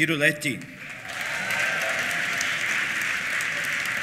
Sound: applause; cheers

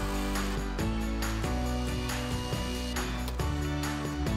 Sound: drill whirs; upbeat music

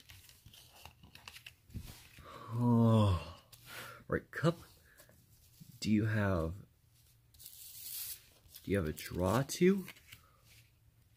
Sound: sighs

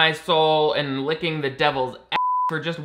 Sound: beeps

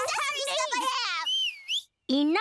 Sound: whistling

